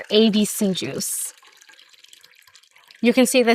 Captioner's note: juice splashing